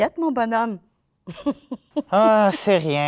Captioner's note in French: Rire